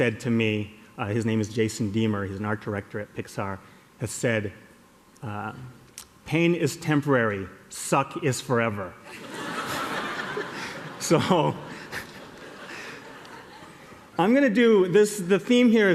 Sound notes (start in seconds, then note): 9.0 laughter